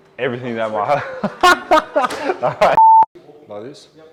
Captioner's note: laughs